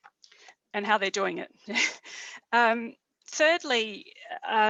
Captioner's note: chuckling